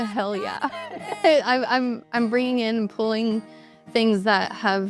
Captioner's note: laughs